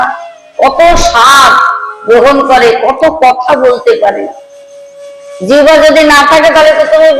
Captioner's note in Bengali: চিৎকার করা